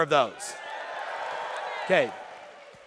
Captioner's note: audience cheering